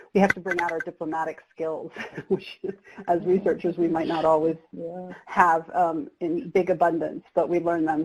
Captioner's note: chuckles